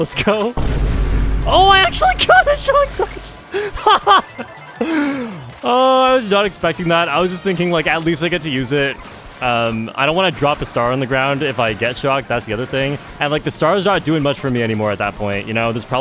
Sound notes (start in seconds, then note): 3.5 laughs